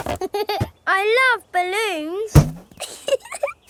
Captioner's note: chuckles